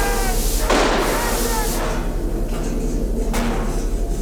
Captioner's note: gun bangs